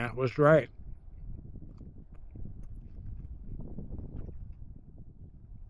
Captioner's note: wind blowing